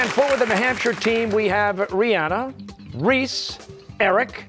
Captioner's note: cheers and applause